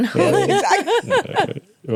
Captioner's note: laughing